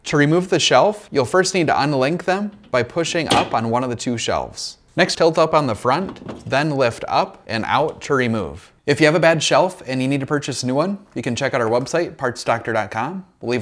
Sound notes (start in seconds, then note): 2.5 shelf snaps